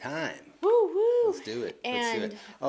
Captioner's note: exclaims